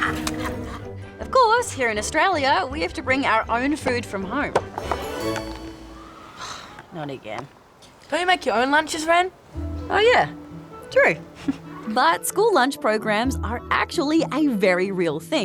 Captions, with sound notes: Of course, here in Australia, we have to bring our own food from home. (SIGHS) Not again. Don't you make your own lunches, Wren? Oh, yeah. True. (CHUCKLES) But school lunch programs are actually a very real thing